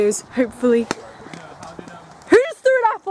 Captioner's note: thud